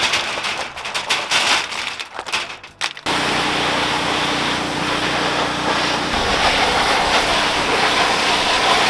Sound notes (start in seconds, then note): 0.0 oysters clanking; 3.0 compression washer motor humming